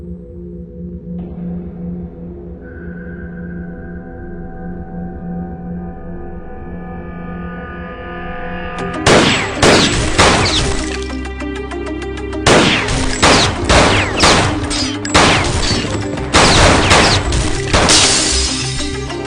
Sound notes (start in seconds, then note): 9.0 gun firing; 9.6 melodic suspenseful music; 12.4 gun firing; 12.4 guns firing